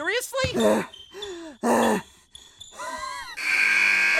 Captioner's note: desperately gasping for air